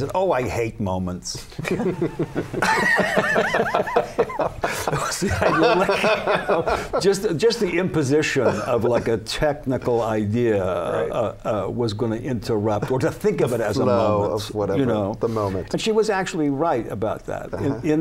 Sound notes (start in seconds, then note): 5.5 laughter